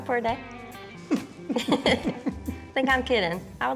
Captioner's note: both chuckling